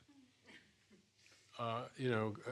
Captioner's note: laughs